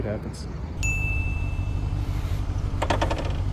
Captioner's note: ding